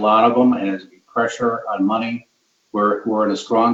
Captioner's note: speech distorted